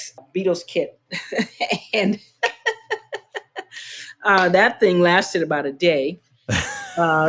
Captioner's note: laughter